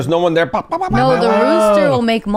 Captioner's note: imitates rooster crowing